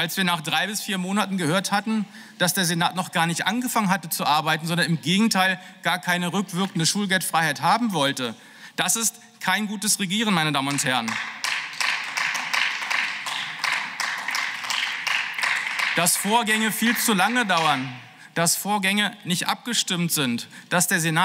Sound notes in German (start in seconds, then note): 11.5 Beifall